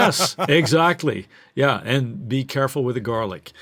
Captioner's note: laughs